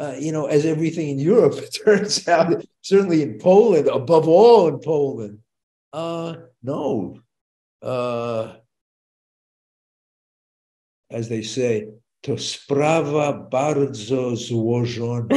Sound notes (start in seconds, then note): 1.8 chuckles; 8.7 speaking Polish